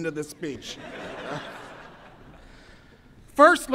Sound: audience laughs

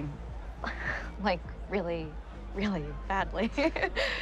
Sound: nervous laughing

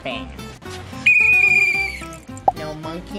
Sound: whistle blows

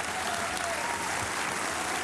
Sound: applause

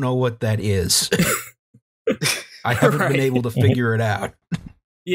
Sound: laughter

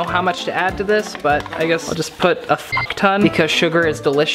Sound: beep

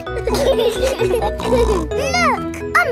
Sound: laughing

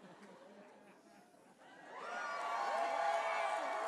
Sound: applause

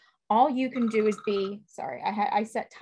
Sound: timer beeping

